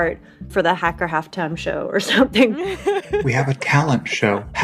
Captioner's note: laughs